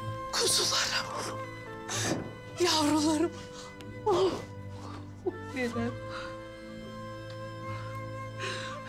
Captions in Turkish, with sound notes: Kuzularım. (Kapı kapanma sesi) Yavrularım. Ohh. (Ağlama sesi) Ninem.